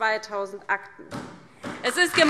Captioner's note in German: Beifall DIE LINKE und SPD